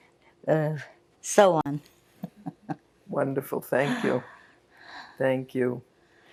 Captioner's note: laughing